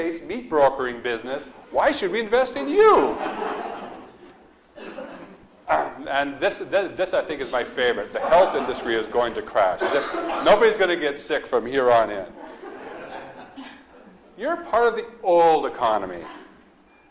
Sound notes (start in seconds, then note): 2.5 audience laughs; 7.3 audience laughs; 12.2 audience laughs